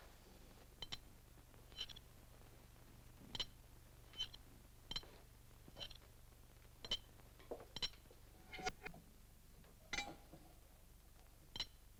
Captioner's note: magnets clink